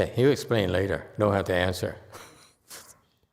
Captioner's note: chuckles